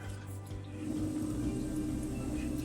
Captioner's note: machinery whirring